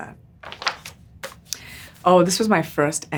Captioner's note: page crinkles